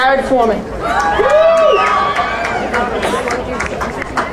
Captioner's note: crowd cheering